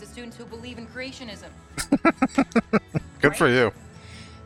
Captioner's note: laughing